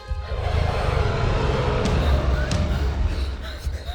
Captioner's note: dragon growls